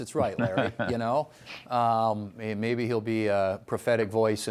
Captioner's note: laughter